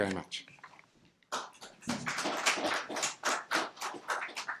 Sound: applause

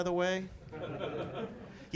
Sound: laughter

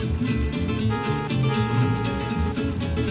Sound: horn

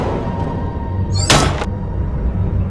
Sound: thud; bang

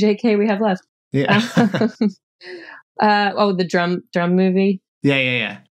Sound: laughter

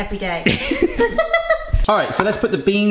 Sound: both laughing

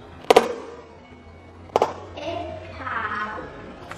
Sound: popping

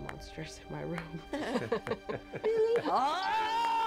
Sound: all chuckle

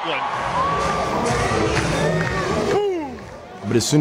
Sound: crowd

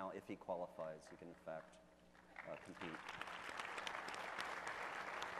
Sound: audience applauding

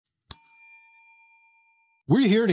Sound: bell dings

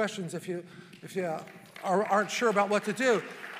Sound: congregation applauding

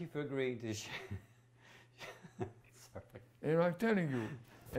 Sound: laughs

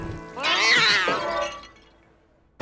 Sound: cat yowling

